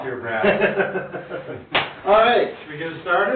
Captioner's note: both laugh